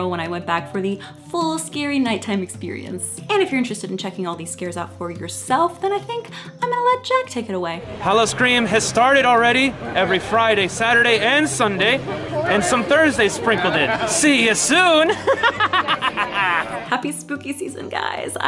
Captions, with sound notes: when I went back for the full scary nighttime experience. And if you're interested in checking all these scares out for yourself, then I think I'm gonna let Jack take it away. - Howl-O-Scream has started already, every Friday, Saturday, and Sunday, and some Thursdays sprinkled in. See ya soon. (laughs) - Happy spooky season, guys.